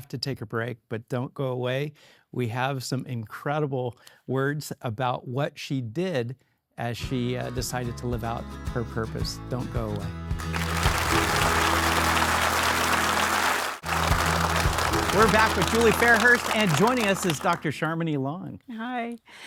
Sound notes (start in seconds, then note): 10.4 audience applauding; 11.4 warm upbeat music